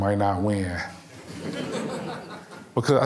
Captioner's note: audience laughing